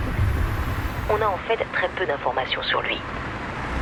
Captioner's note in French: radio